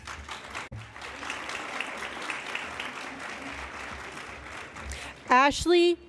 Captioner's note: applause